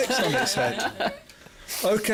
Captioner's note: laughs